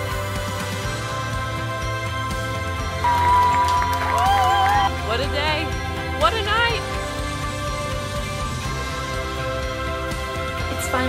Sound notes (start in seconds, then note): 3.0 crowd cheering; 7.3 dramatic and hopeful orchestral rock music